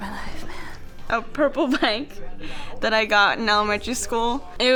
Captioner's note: laughing